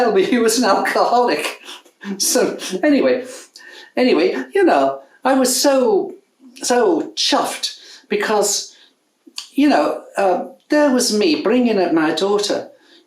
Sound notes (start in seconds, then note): 2.4 chuckles